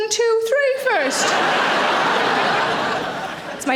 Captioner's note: audience laughing